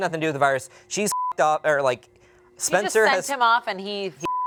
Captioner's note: beep; beep